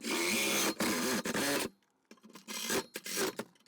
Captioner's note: saw cutting